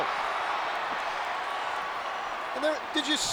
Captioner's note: applause